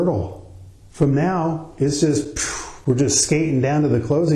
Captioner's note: puffs out air